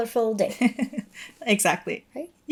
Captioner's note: chuckling